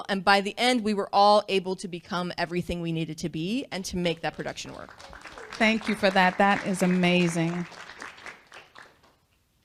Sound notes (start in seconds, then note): 4.6 applause